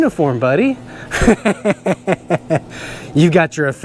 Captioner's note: laughs